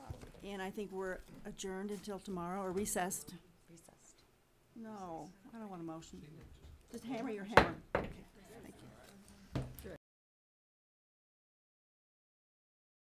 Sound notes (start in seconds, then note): 7.6 hammering